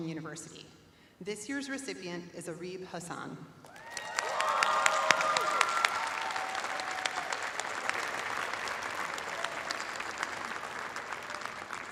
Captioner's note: cheers and applause